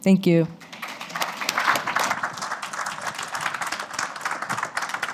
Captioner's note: applause